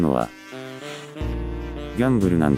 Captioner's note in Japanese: 息を吸う